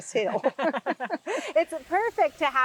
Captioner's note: laughing